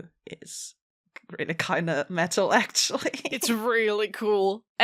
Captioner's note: laughs